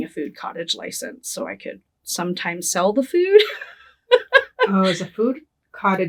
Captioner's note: laughing